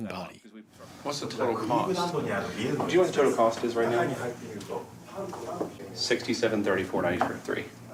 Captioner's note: on phone